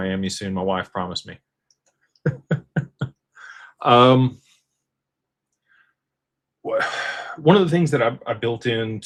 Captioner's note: laughter